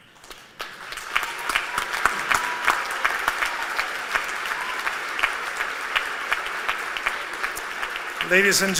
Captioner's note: applause